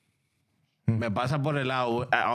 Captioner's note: speaking In Foreign Language